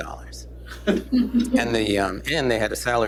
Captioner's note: laughter